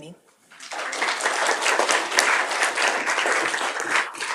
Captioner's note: applause